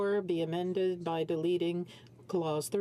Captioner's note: speaking French